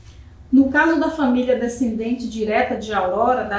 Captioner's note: speaking portuguese